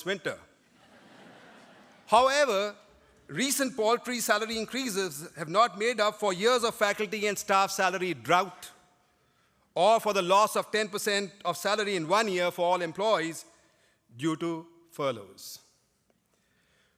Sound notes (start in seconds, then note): 0.6 laughter